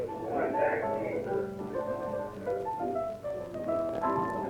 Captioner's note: crowd chatters